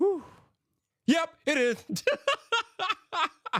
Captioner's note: laughs